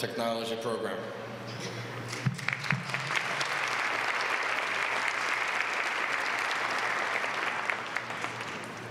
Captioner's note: applause